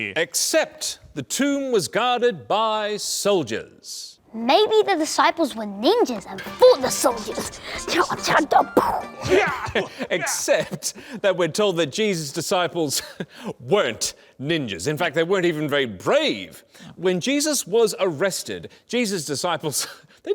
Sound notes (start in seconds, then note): 6.4 fighting noises